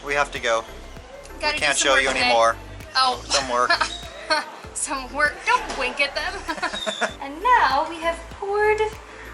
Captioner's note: laughter